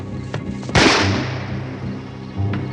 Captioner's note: gunshot